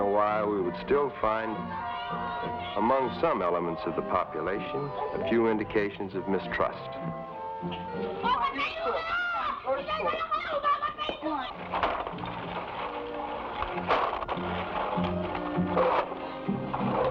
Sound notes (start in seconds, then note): 8.3 boy shouting in Tagalog; 11.5 machine clattering